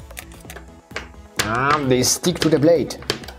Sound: none

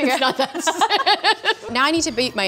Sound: laughing

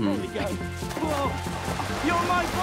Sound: water splashing

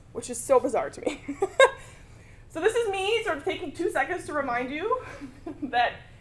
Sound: laugh

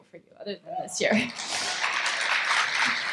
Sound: crowd cheer

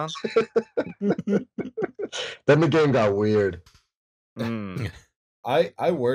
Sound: laughter

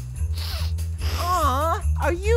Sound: sniffle

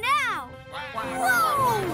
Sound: ducks quacking

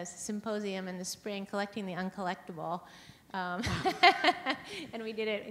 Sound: laughs

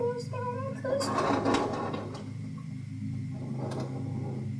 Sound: rattling

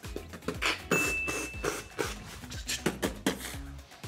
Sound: bell chimes

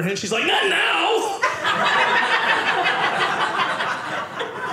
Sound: audience laughing

